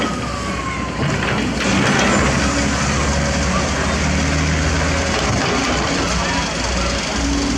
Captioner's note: engine Rev